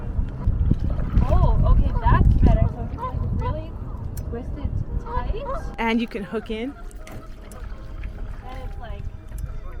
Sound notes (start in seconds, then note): 5.3 water splashing; 5.6 birds chirping